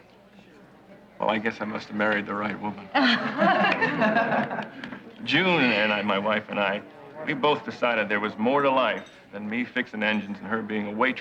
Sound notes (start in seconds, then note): 2.9 laughing